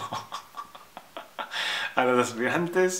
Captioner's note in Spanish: risas